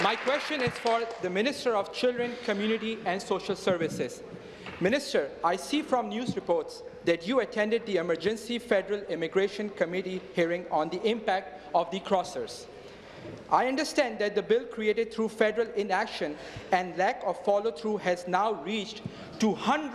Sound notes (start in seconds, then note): 2.6 applause